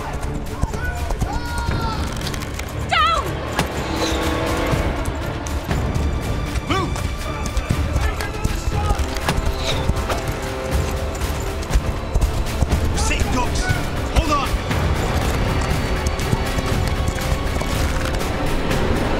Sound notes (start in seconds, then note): 2.0 bow creaks; 3.9 arrow whooshes; 8.3 Kah'Nath continue to shout out; 8.3 arrow whooshes again; 14.5 reigns creak; 17.7 bow creaks